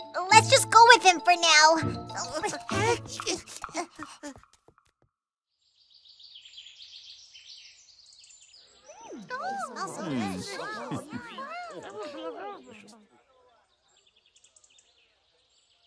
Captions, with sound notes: Uh... Let’s just go with him for now! (Bird chirping) (Crowed talking)